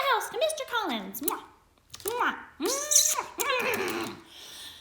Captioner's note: kissing sounds